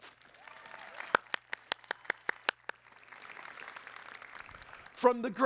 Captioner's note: applause